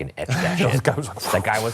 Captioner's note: chuckles